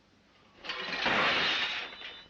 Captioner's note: breakfast tray falls with a crash